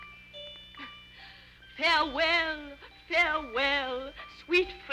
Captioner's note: coughs